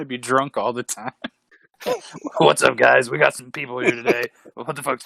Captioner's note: in a deep drunken voice